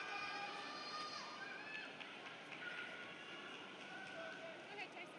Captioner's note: applause